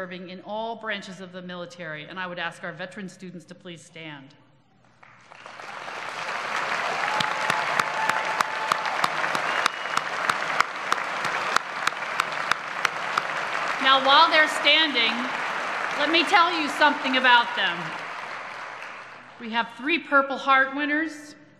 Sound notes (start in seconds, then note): 4.9 applause